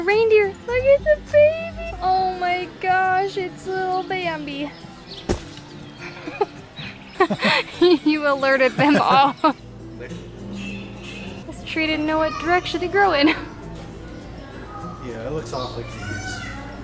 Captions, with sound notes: Reindeer. Look at the babies! Oh my gosh it's little Bambi. [Laughter] You alerted them all. This tree didn't know what direction to grow in. Yeah, it looks awfully confused.